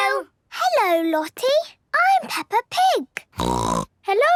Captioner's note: snorting